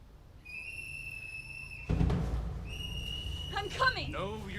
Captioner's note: whistle blows